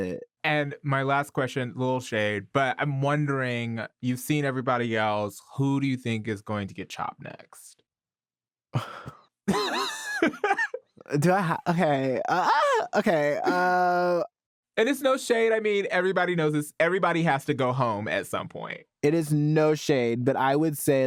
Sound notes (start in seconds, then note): 7.5 chuckles in dismay; 9.5 laughs; 12.0 shrieks